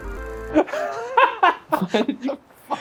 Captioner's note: laughs